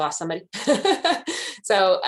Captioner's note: chuckles